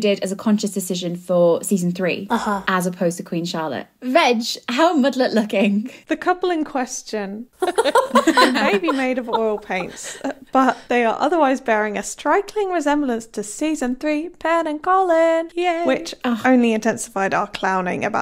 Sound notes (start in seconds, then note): 7.6 laughs